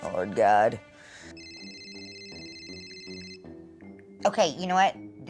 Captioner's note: phone ringing